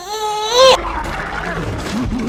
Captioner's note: roars